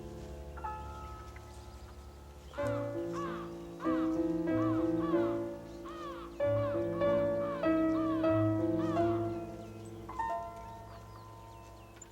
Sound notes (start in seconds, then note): 2.5 crows squawking